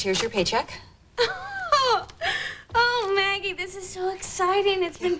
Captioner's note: laughing